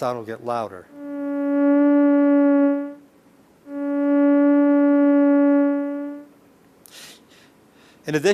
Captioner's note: electronic whirling sounds